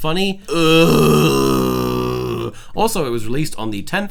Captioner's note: groaning